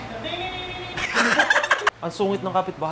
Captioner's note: laughter